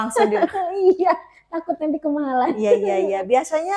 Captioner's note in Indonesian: tertawa